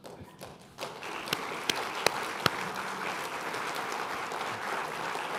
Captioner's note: applause